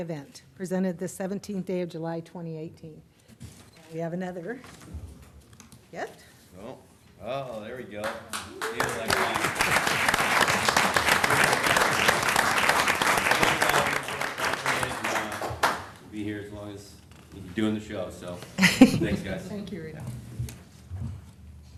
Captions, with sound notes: PRESENTED THE 17th DAY OF JULY 2018. 2018. >> THERE WE GO. >> THERE WE GO. >> [ APPLAUSE ] >> [ APPLAUSE ] >> THANK YOU. >> THANK YOU. >>